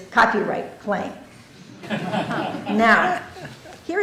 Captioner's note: laughter